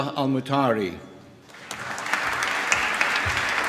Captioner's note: applause